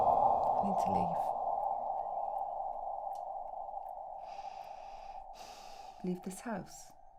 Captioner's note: sighs